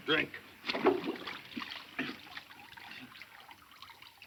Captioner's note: water splashing